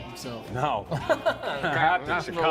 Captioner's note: laughing